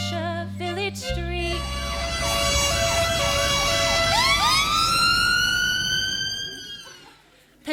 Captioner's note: a police car screams past